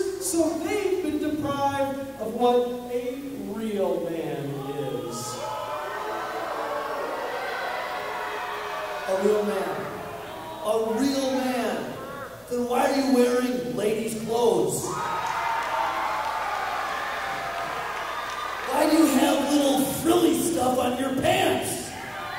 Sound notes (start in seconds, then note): 4.5 audience booing; 14.5 audience cheering